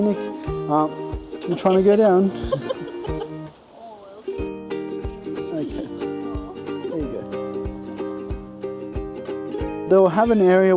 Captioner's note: laughing